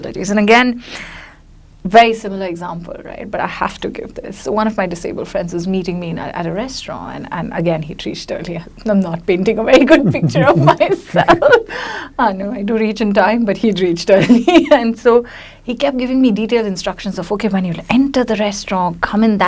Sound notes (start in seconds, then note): 9.9 laughs; 10.0 chuckles